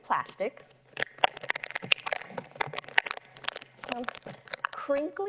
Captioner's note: plastic crunching